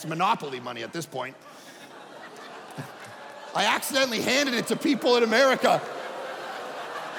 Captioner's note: audience laughing